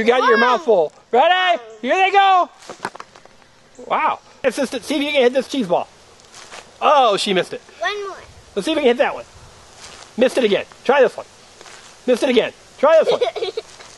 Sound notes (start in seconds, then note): 2.6 voiceover; 10.6 voiceover